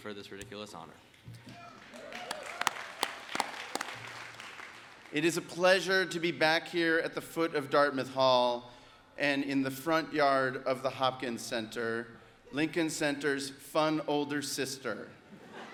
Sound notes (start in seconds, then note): 1.5 audience applauds